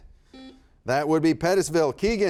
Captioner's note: buzzer buzzes